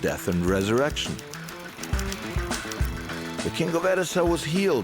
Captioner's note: upbeat music; tapping